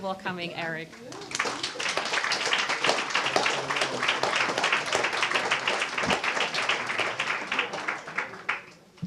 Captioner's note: applause